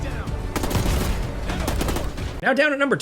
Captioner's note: gunfire banging